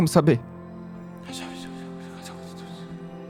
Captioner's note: whispers